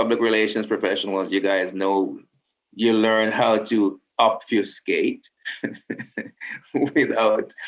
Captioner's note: laughs